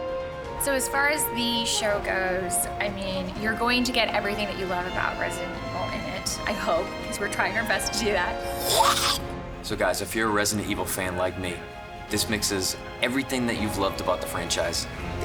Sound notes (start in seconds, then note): 0.3 in English; 8.4 snarls